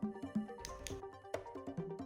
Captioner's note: clicks